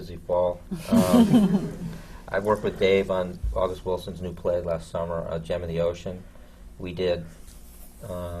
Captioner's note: laughter